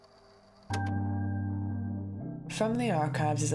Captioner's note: click